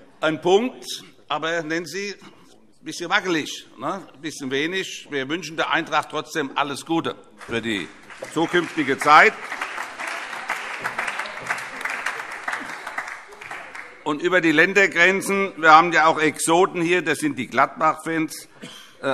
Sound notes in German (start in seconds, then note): 9.5 Beifall